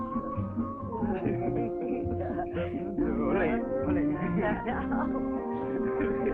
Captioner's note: Pepe and Elizabeth laughing